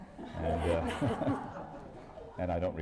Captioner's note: laughter